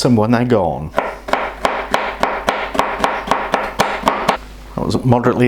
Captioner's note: CHOP CHOP CHOP etc